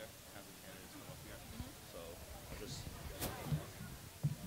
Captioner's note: quiet whispering